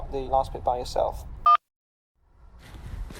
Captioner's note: beep